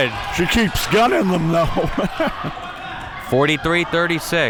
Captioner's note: chuckles